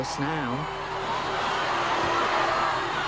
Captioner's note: crowd cheers